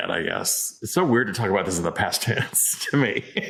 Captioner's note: laughs